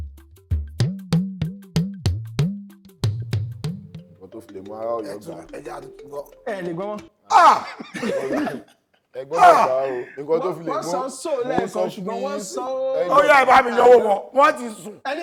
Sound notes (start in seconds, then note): 0.0 drum beats; 7.3 laughs